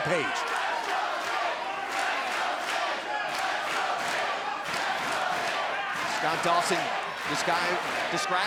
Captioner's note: crowd cheering